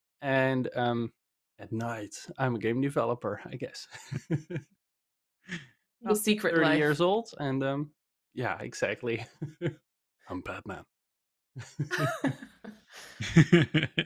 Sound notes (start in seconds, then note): 3.9 laughs; 9.1 laughs; 9.6 gravelly voice; 11.1 laughter